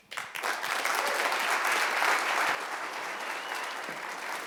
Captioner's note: applause